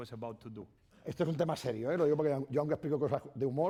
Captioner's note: speaking spanish